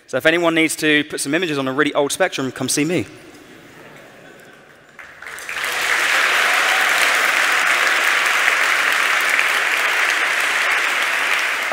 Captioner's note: cheering and Applause